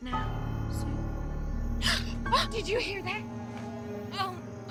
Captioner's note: gasps